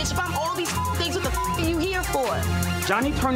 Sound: beeps

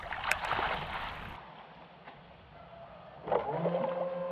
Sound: splashing

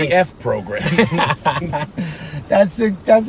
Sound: laughing

